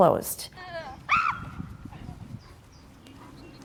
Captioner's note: yelling